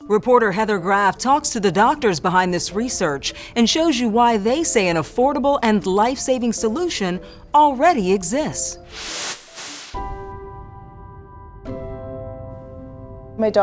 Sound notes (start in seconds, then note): 8.8 air whooshes; 10.9 gentle music